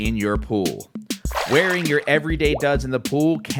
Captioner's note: water splashes